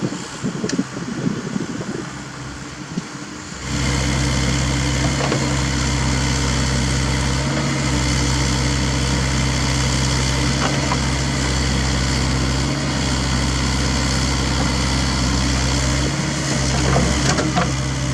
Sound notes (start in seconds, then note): 4.2 raw engine sound